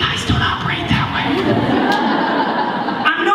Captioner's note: laughter